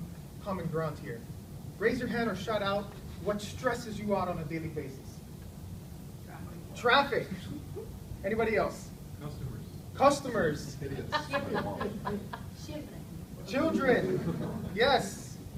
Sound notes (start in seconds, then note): 11.1 audience member laughs